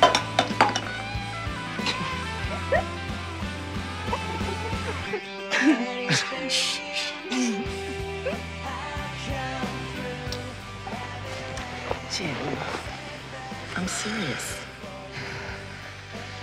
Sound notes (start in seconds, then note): 0.0 glass clatters; 2.0 giggle; 10.0 light clicks; 13.8 sighs